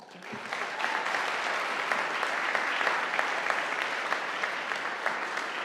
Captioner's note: audience applauding